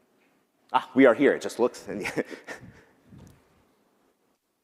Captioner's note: laughs